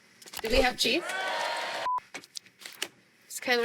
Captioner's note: cheering